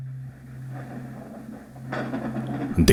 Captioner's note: thunder